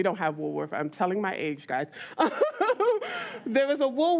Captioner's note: laughs